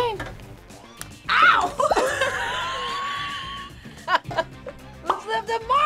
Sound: both laugh

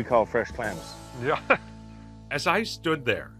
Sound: chuckling

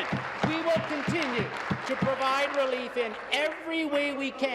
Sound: applause

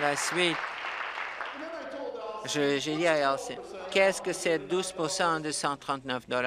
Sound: applause

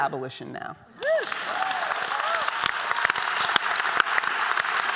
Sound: applause

